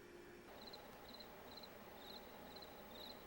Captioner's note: crickets chirping